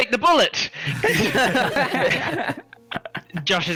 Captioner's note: all laughter